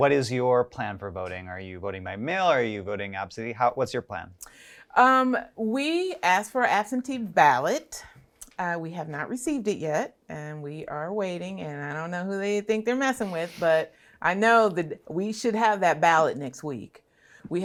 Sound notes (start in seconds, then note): 13.9 snickering